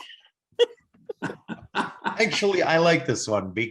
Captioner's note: laughing